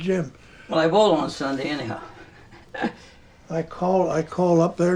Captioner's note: laughs